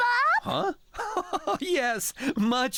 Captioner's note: chuckling